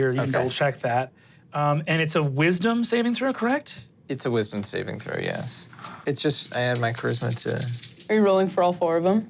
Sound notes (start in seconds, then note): 6.3 dice clinking